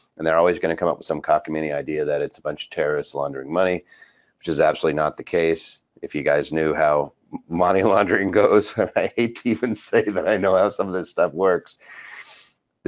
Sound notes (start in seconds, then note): 7.4 laughs